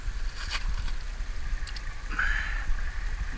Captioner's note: light splash